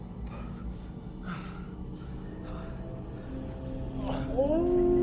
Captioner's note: Arawn breathing heavily; wolf howling; Arawn gasps